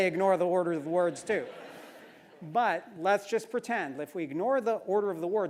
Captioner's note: laugh